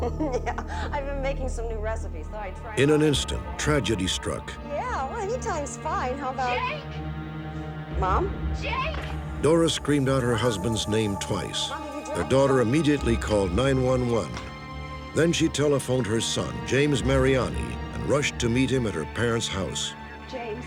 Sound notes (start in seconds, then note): 5.9 on phone